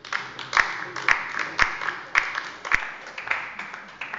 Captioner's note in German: Beifall bei der LINKEN